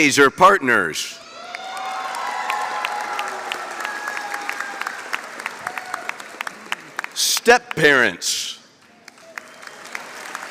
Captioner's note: applause